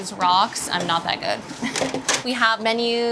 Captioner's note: chuckles